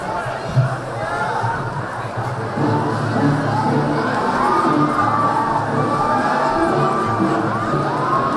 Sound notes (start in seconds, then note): 2.5 dramatic music; 2.8 chattering